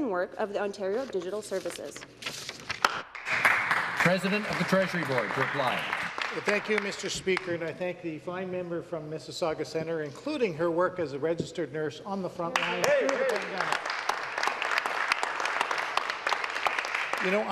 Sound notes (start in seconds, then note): 5.6 some Applause; 17.1 some Applause